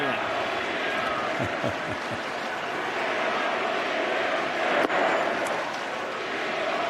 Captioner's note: chanting "we don't need you"